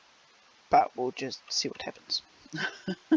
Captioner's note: laughs